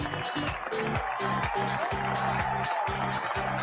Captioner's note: audience cheers